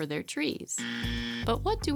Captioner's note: buzz